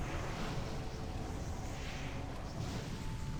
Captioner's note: whispering